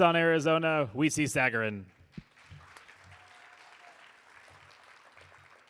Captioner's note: audience applauding